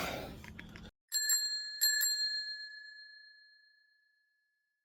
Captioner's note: bicycle bell ringing